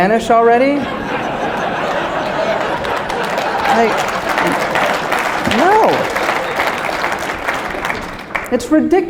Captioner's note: laughter